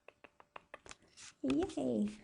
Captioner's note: tapping